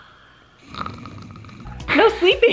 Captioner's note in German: falsches Schnarchen